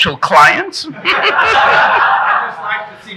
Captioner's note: audience laughing